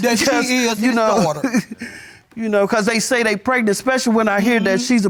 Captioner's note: chuckles